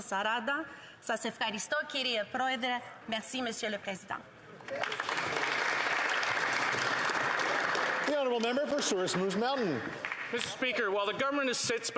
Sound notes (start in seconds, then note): 2.9 alternate language; 9.8 applause